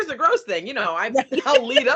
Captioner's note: laughing